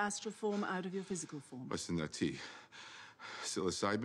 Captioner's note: breathing heavily